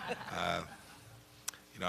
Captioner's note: laughter